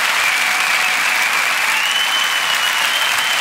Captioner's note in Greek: θερμό χειροκρότημα; σφυρίγματα